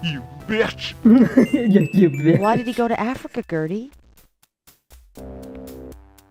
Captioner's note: laughing mimicing Gabriel